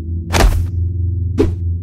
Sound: smack

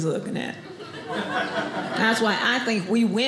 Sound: audience laughing

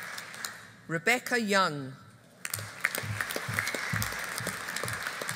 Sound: audience applauding

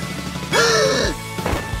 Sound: gasping

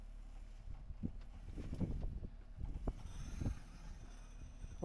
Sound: wind

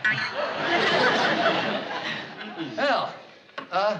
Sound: spring bouncing

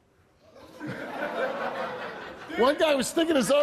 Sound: audience laughs

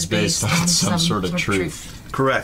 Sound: laughing

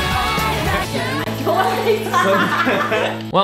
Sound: Sharpay and Peyton laughing

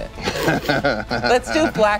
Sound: laughing

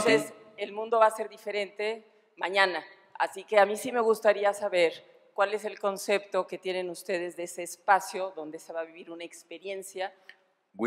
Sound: speaking spanish

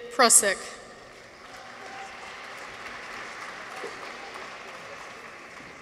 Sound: audience applauds

